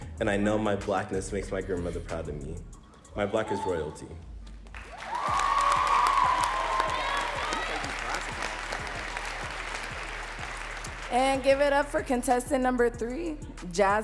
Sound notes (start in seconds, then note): 4.7 audience cheering and clapping